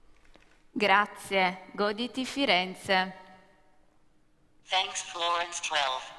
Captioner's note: speaking italian